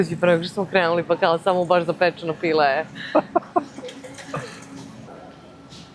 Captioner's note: laughter